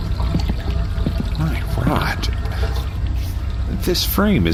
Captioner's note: speaking with no vocal distortion